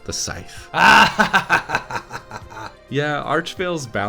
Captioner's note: maniacal laughter